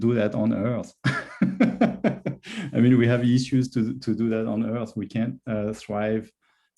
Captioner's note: laughs